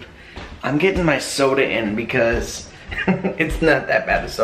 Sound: laughing

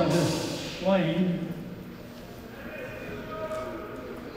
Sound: plane huffing

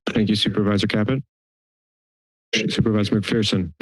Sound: silence

